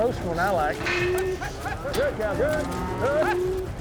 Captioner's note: cows mooing